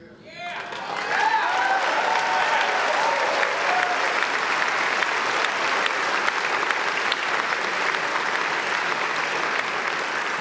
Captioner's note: applause